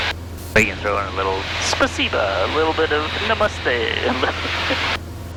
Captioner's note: laughing